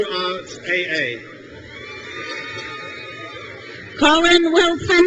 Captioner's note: crowd cheers